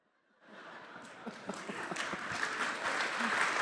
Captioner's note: audience laughing; audience applauding